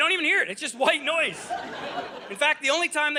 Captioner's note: audience laughing